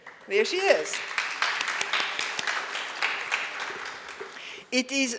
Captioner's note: audience applauds